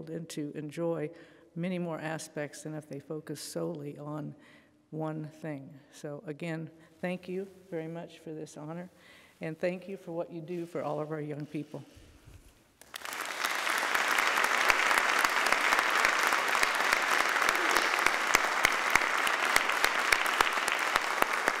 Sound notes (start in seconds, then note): 13.1 applauding